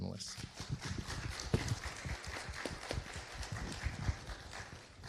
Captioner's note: audience applauding